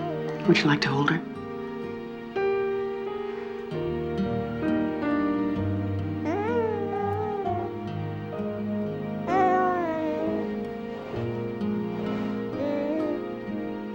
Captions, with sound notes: Would you like to hold her? (BABY COOING)